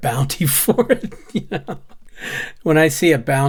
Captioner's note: laughs